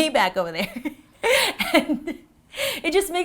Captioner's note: laughing